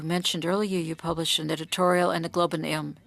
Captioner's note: speaking French